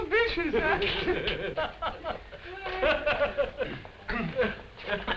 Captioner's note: laughter